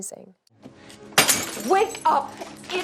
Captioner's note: glass smashes